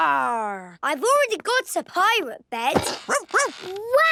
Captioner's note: barking